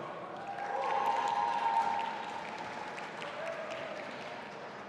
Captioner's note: audience applauding